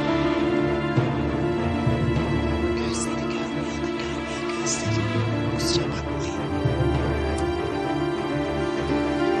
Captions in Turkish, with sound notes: (fısıldayarak) Gözleri görmüyor da, görmüyor gözleri. Kusura bakmayın.